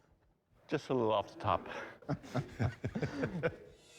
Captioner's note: laughter